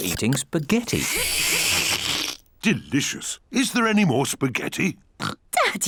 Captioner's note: slurps; oinks